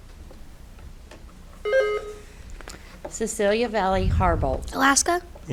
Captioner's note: buzzer beeps